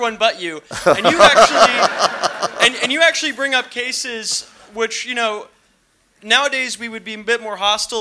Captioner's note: laughter